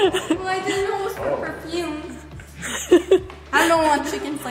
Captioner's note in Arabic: تضحك; تضحك